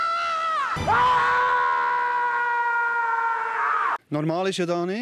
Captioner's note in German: schreit; schreit auch